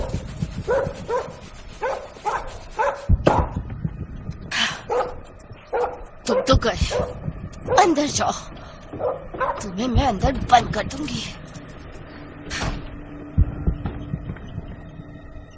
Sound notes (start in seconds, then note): 4.4 sighs